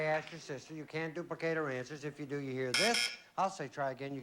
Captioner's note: buzz buzz